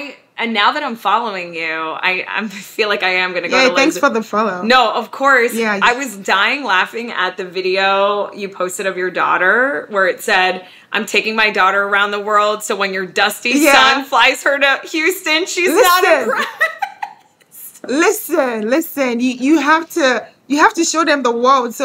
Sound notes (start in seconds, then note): 16.0 laughing